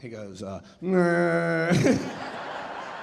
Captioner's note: imitating zombie sounds; laughing; audience laughing